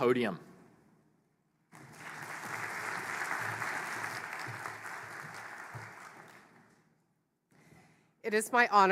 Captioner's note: applause